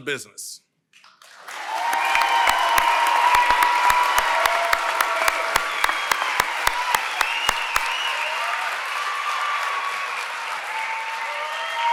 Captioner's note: applause & Cheering